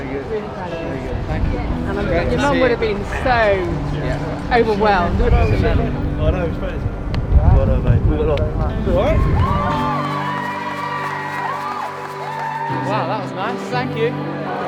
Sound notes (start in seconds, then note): 8.9 cheering